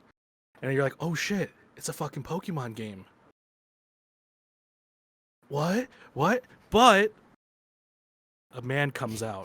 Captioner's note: pause